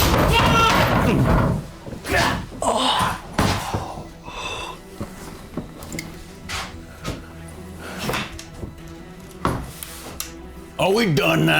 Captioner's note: screaming